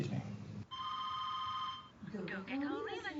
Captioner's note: phone rings